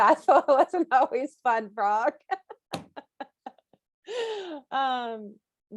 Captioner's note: laughs